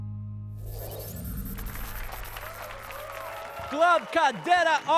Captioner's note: applause and cheers